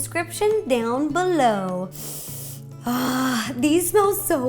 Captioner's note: sniff